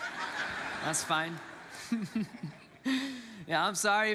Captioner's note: congregants laugh; laughs